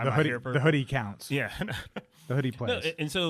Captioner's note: laughs